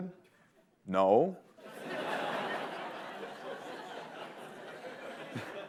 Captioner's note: laughter